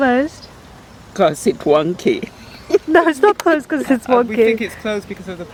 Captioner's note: scoffs